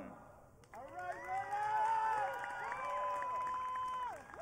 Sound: audience cheering

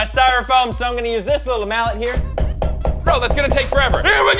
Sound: thumping

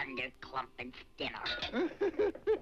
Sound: nail clanks; house laughs

